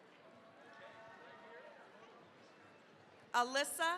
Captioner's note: cheering, applause